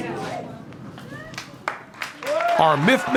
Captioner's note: non-english speech; applause